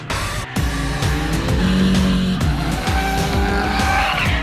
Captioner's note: engine hums